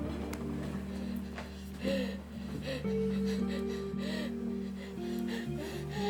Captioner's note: patient breathing laboriously